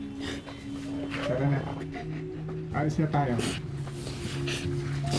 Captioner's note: sobbing; sniffling